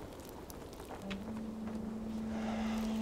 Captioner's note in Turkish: Rüzgâr sesi